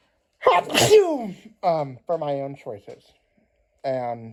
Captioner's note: sneezes